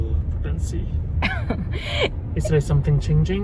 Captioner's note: laughing